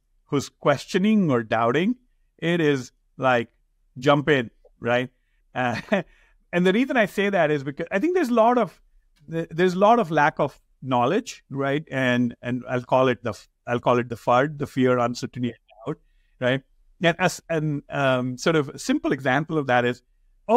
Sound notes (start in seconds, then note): 5.6 chuckles